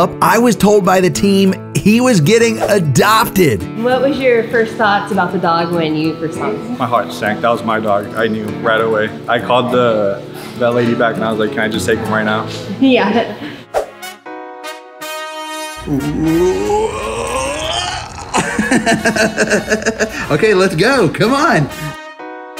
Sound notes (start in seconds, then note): 15.7 upbeat music; 18.4 laughs